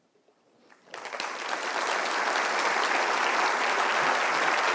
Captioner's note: applause